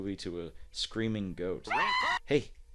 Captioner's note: the goat screams